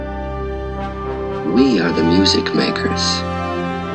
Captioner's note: voiceover of man speaking in english; triumphant music